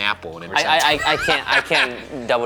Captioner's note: laughing